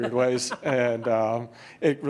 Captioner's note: laughter